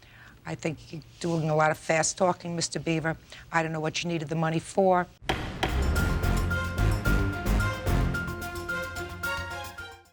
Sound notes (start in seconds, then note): 5.2 gavel banging; 5.2 dramatic music